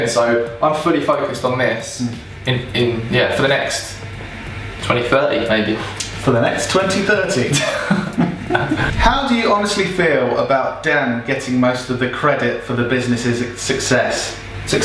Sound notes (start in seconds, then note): 7.6 laughing